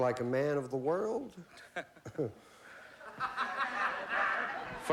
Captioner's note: laughs